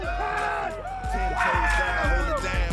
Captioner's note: all cheering